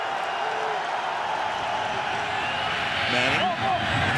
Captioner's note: cheering